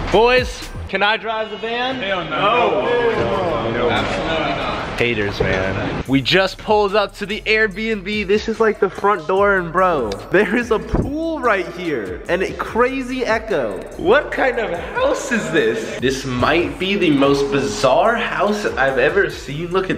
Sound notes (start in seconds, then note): 2.2 men loud yelling